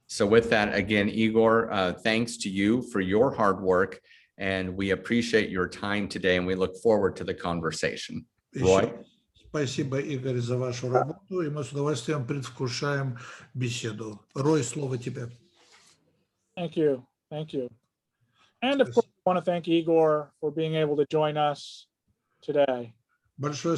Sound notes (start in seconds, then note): 9.8 translator speaking Russian language